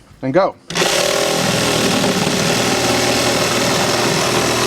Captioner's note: electric saw cutting